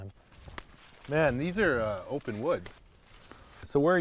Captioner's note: footsteps rustling